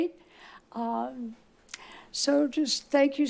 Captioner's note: smack lips